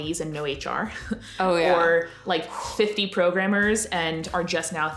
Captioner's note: sighs